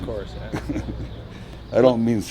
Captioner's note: laughs